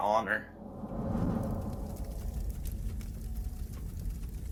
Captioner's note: torch blazing